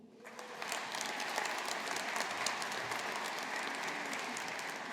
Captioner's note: audience applauding